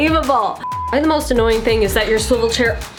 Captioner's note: error beep